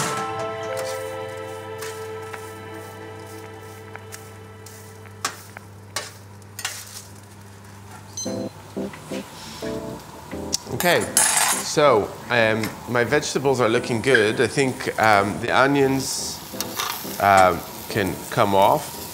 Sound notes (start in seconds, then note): 0.2 metal clanging; 8.2 timer beeping